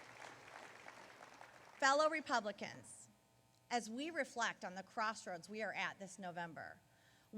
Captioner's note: applause